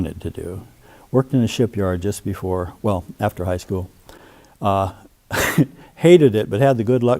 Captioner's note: laughs